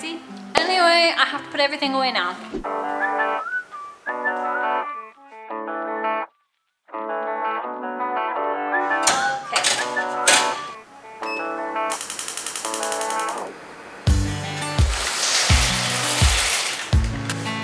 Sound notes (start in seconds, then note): 2.3 electric guitar playing; 10.8 beeping; 14.1 upbeat music playing